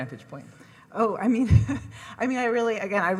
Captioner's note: laughs